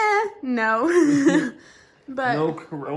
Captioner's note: laughs